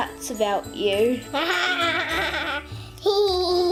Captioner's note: laughs